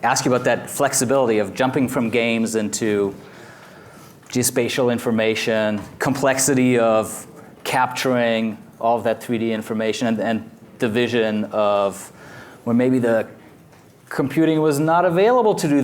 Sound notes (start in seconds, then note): none